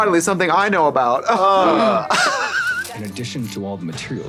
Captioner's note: blonde Women scoff